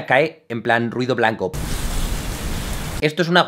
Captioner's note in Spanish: Ruido blanco